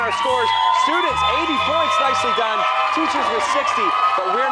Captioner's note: cheers and applause